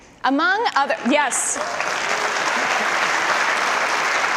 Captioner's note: audience applause